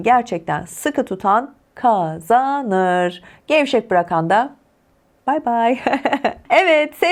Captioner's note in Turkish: kahkaha